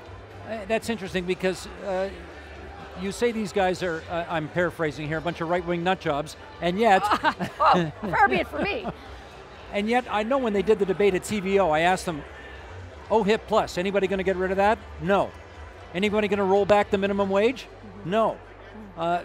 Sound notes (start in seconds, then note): 7.0 laughing